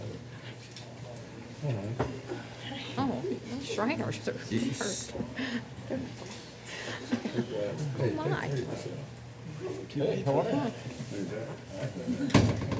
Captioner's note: soft chatter